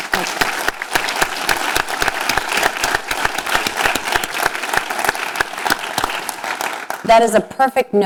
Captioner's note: applause